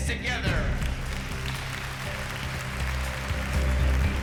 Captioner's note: applause